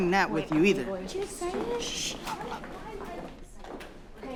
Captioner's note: whispers